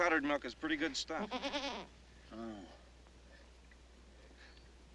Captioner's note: goat bleating